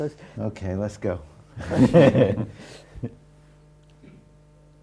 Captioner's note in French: Rires